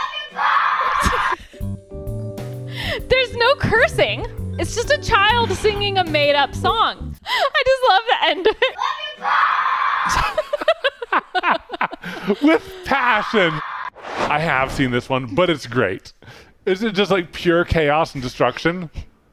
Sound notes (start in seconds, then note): 10.3 laughing